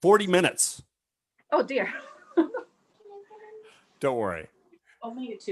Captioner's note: chuckles